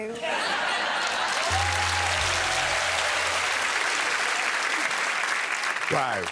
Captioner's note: applause